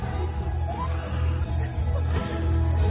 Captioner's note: cheers